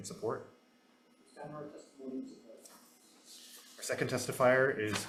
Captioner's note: testifier speaking faintly